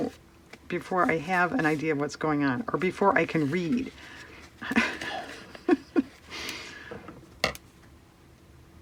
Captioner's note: laughs